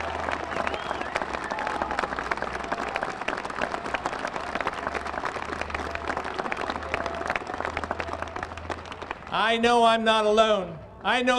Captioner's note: applause